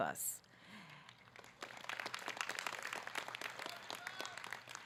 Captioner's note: audience clapping